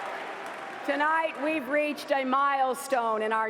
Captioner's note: cheers and applause